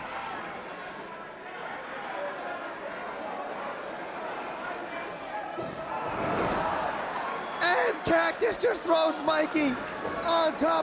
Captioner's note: crowd chatter